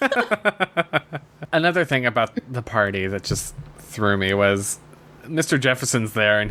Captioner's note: laughs